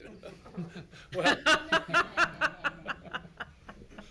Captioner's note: audience laughs